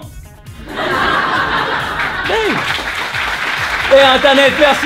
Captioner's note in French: rires